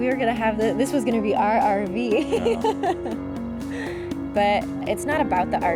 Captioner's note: laughing